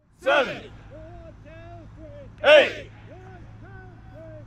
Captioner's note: battalion keeping count together